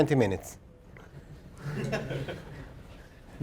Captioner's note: laugh